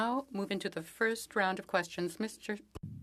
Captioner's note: speaking French